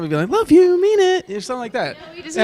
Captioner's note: in high-pitched voice